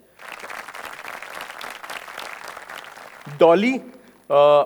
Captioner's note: audience applauding